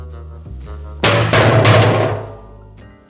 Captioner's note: banging on barrels